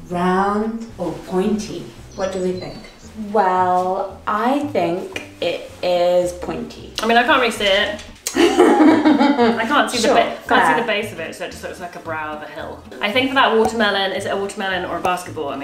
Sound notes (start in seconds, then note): 8.3 laughs